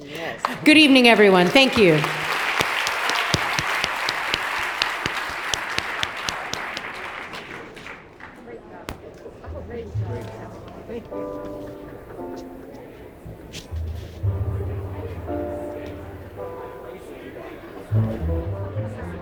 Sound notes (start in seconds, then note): 2.2 audience applauds; 8.8 attendees murmuring faintly; 9.4 light piano music